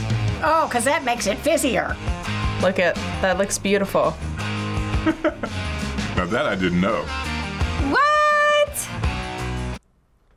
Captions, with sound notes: - Oh, 'cause that makes it fizzier. - Look at-- that looks beautiful. - (laughs) Now that I didn't know. - What?!